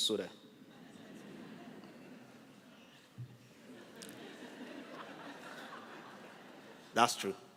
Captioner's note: laughter